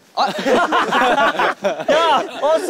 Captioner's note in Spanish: Jajaja